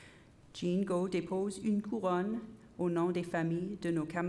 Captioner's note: repeated in French